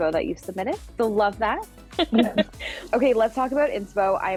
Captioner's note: laughing